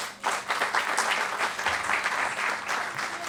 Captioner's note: applause